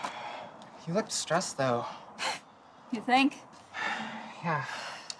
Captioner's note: scoffing